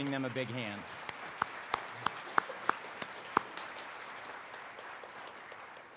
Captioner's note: participants applaud